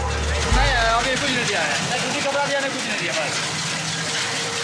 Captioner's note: dzongkha spoken audio